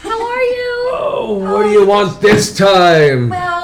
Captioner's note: groans